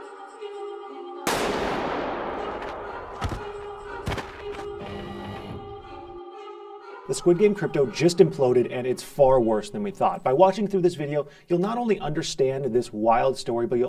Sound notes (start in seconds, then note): 1.2 gunshot